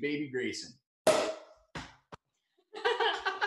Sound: cork pops loudly; laughing

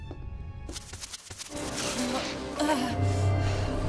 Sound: groaning

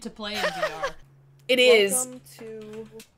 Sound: laugh

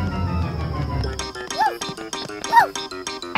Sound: Pocoyo woofs

